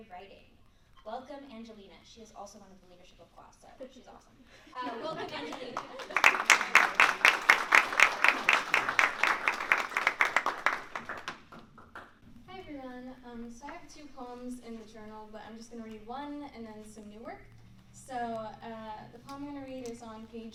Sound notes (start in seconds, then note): 5.2 applause